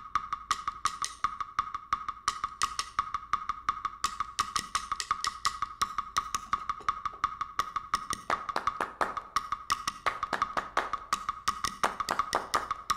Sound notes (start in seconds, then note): 8.0 clap, clap, clap, clap; 11.2 clap, clap, clap, clap